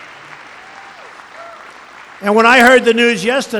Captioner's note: applause